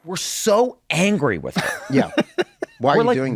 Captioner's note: laughing